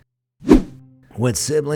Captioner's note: air whooshing